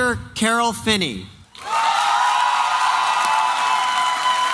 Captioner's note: applause and cheering